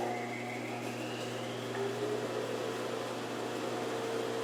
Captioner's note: saw buzzing